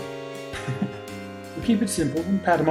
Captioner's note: chuckles